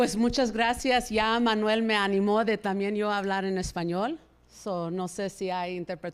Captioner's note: speaking in Spanish